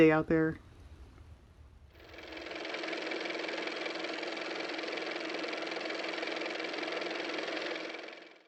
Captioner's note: car motor